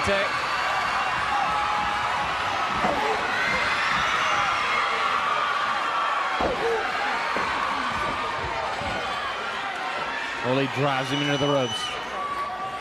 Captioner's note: crowd cheering